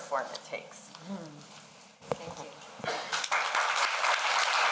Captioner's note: applause